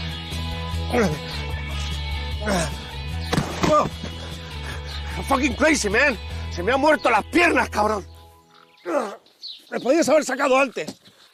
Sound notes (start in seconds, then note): 0.2 gasping for breath; 3.3 crash; 5.1 yelling